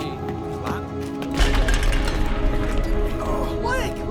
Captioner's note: clattering